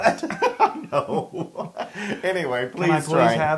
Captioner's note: laugh